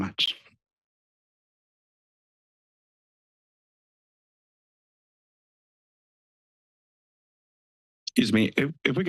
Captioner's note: silence